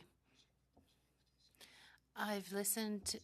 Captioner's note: speaking French